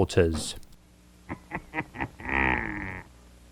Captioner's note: laughs wickedly